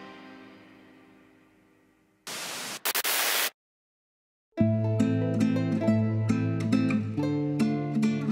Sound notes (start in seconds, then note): 2.2 static hisses; 4.6 gentle Spanish music